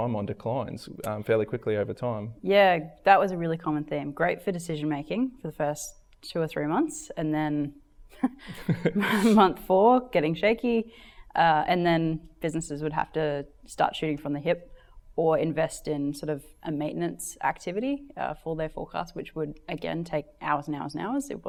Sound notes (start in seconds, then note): 8.5 laughs